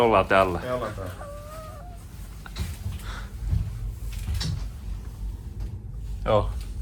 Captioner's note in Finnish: taustahälinää